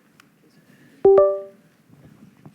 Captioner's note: bling